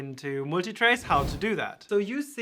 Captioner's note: graphics whooshing